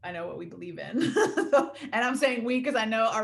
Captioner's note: laughing